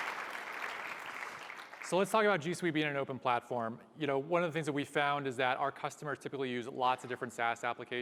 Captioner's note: applause